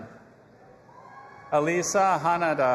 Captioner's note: audience applauding and cheering